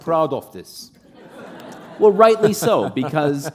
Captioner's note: laughter